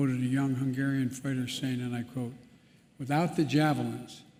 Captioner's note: Ukrainian